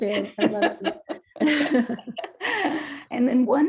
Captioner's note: both laughing